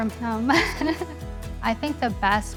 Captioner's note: chuckling